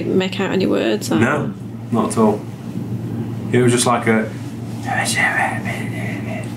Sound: whispers

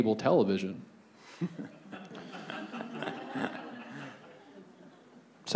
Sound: audience laughs

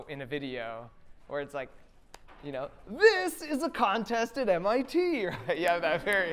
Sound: excitedly

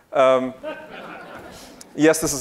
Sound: audience laughing

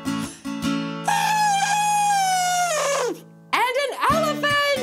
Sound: trumpeting

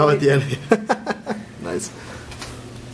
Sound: laughter

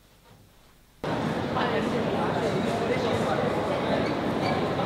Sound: people chattering

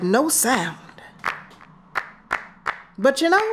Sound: hands clapping

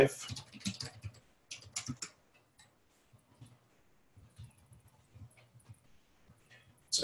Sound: typing

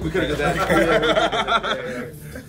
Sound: laugh

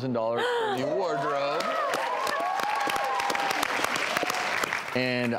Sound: applause and cheering

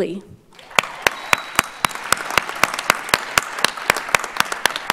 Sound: audience applauds

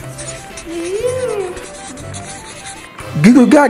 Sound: scribbling

